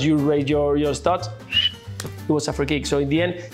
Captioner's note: whistle from referee